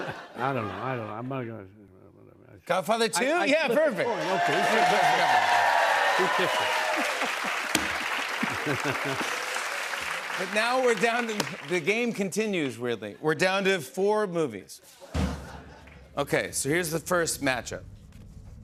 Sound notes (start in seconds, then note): 7.1 cheers and applause; 15.1 drum roll